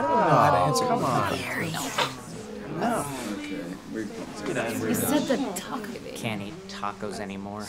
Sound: coworkers mutter exasperatedly

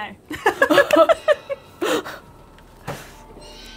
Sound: both laughing; intense music

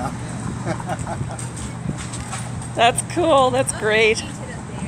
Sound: laughs

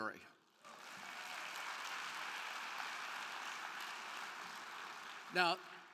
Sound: crowd clapping; crowd cheering

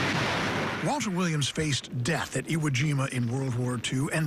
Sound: gunfire

